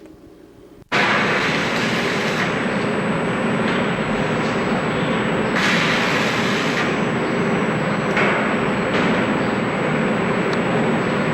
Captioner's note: sound of welding and other construction noises; construction noise